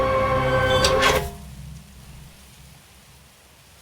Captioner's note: gate squeaks